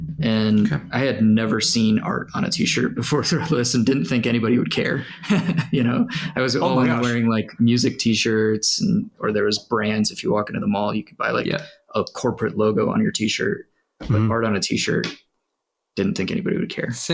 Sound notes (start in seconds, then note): 4.7 laughs